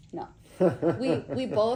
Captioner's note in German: Lachen